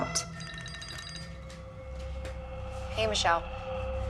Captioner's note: cellphone rings